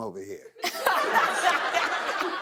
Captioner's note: laughter